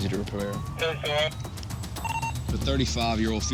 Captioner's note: radio sounds off